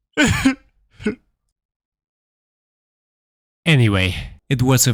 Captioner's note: sobbing